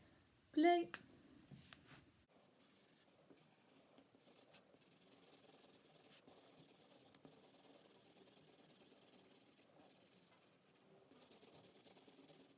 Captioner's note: scribbling